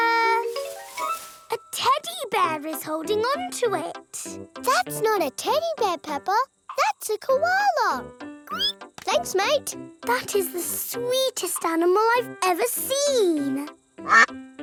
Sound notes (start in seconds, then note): 8.5 squeals